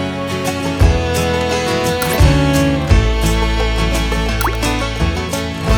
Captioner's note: clicks